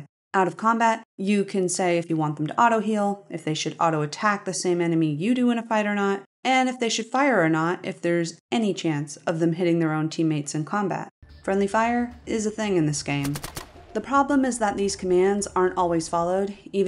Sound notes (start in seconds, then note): 13.1 ratta-tat-tat